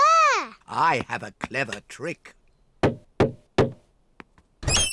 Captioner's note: knocks